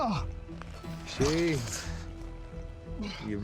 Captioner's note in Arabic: لكنة اسكتلندية